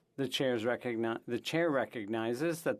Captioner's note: speaking French